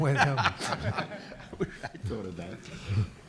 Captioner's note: audience laughs